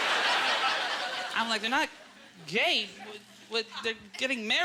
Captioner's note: audience laughter